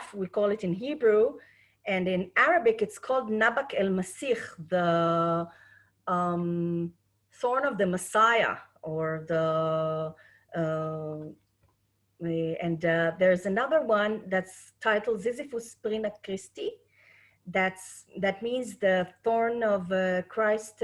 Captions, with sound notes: we call it in Hebrew and in Arabic, it's called the (speaking Arabic), the thorn of the Messiah or the... And there's another one that's titled, "Zizythus Sprina Christi," that means the thorn of Christ,